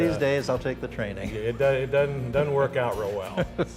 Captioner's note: laughter